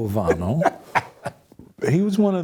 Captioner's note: laughs